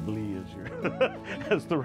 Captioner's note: laughing